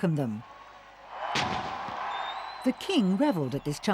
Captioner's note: cannon booming